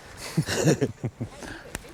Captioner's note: laughter